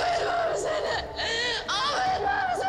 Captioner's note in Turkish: Ağlıyor